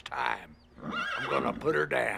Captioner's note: horse neighing